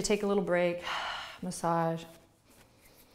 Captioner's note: exhales